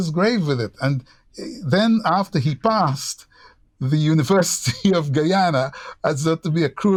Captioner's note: laughter